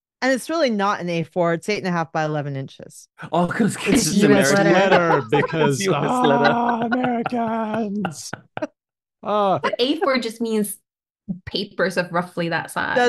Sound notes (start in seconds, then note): 9.6 laughter